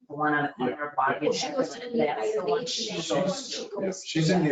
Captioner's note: people chattering